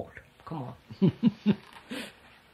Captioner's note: laughs